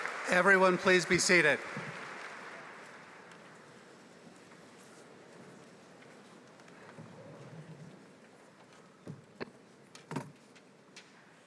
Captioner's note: applause